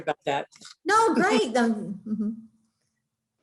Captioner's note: laughing